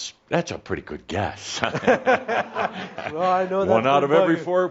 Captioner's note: they both chuckle